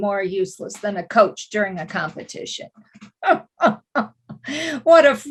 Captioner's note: laughs